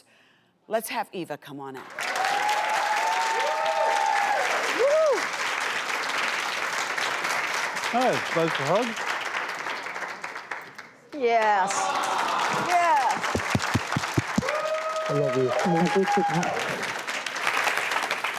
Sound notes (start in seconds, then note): 2.0 audience applauds